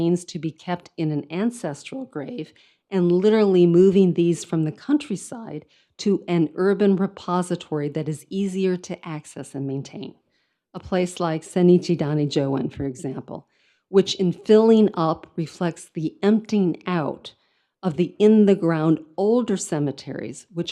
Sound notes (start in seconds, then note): 11.5 speaks in foreign language